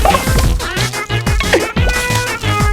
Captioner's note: laughs to myself